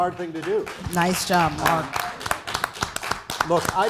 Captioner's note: applause